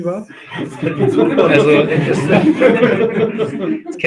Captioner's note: laugh